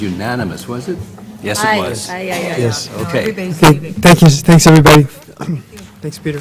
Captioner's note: cough